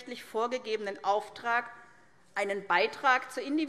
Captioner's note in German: none